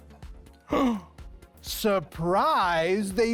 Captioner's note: gasps